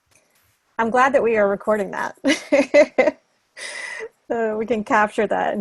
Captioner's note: laughing